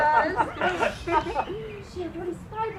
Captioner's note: laughing